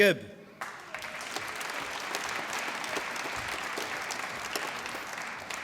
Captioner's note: applause